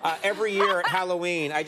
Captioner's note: Jada and audience laughing